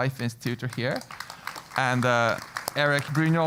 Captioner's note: applause